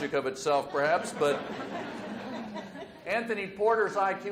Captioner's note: audience laughs